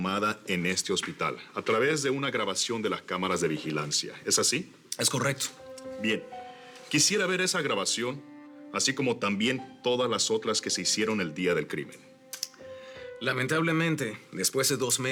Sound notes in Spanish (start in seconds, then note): none